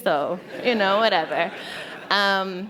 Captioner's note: laughter